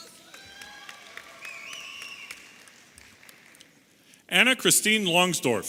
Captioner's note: audience applauding and cheering